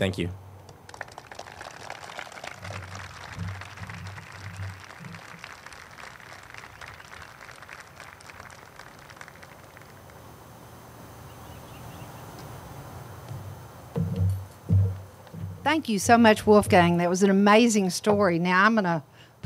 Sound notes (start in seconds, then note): 3.2 group claps